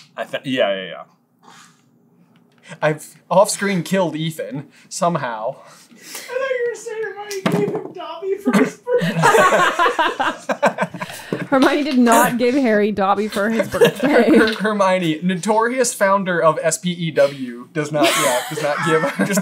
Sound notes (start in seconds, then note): 8.5 laughter